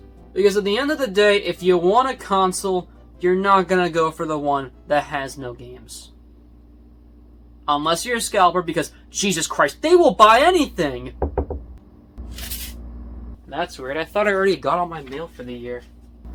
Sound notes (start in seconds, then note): 11.2 knock on door; 12.2 paper slides